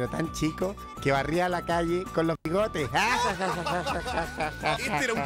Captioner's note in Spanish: Todos ríen